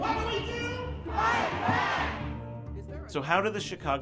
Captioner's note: crowd chant